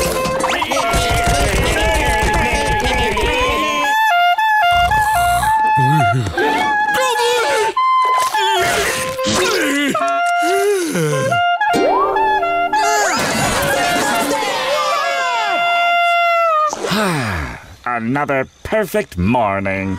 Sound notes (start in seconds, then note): 3.3 playing off-key; 10.4 groaning, sighing; 10.9 playing off-key